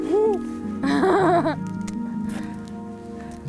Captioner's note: laughs